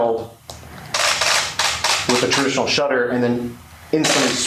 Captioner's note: mechanical shutter